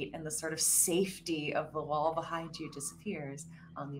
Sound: none

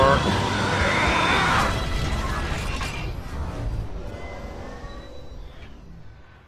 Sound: mechanical Sounds

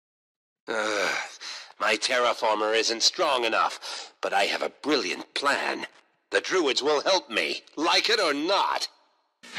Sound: sigh

